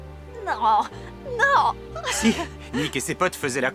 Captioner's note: laughing